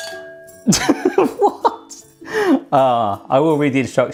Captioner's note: laughs